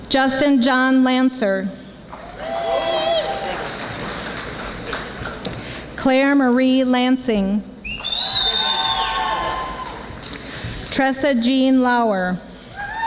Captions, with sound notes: Justin John Lanser (audience applauding) Claire Marie Lansing (audience whistling and screaming) Tressa Jean Lauer